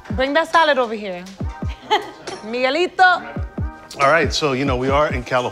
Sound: speaks Spanish

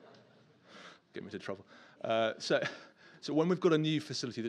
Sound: laughter

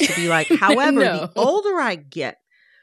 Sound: laughter

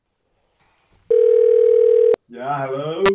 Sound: phone rings

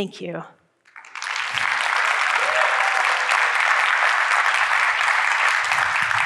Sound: audience cheers applauds

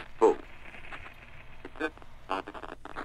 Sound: static buzz

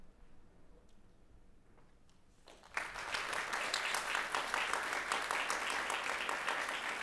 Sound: applause

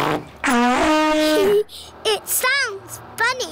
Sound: giggles

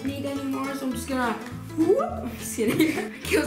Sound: yelling

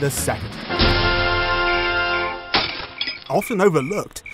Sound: drum roll; crickets chirping

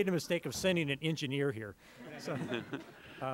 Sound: laughter

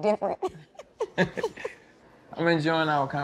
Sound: both chuckle

